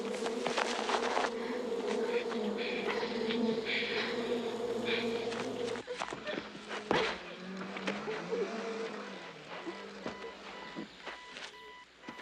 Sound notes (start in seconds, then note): 0.0 buzzing; 2.2 violet whimpering